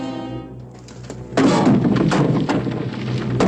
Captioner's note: thudding